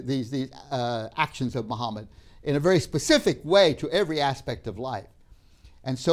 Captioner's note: none